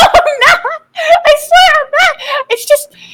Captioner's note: inhale